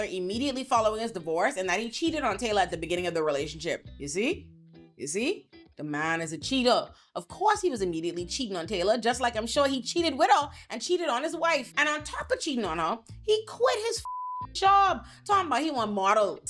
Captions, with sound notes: immediately following his divorce and that he cheated on Taylor at the beginning of the relationship. You see? You see? This man is a cheater. Of course he was immediately cheating on Taylor, just like I'm sure he cheated with her and cheated on his wife. And on top of cheating on her, he quit his (beep) job, talking about he was a model.